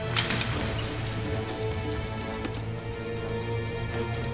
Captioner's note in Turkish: İnci düşme sesi; Müzik - Gerilim